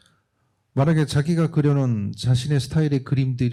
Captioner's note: speaking korean